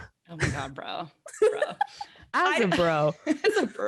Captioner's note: laughs